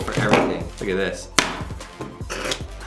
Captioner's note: laughs